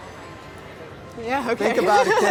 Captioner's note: laughs